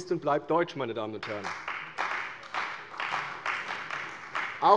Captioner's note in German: Beifall bei der CDU